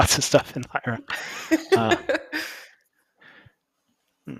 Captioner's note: laughter